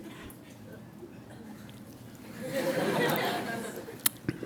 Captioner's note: audience laughs